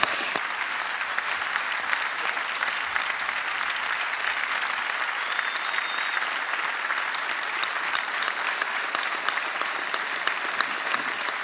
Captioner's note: applause